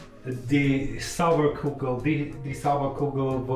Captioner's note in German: versucht holländischen Akzent